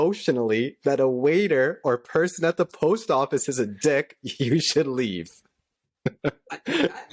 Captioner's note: laughter